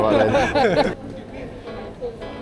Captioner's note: laughing